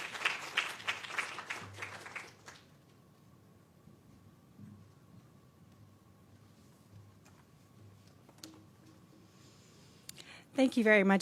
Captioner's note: applause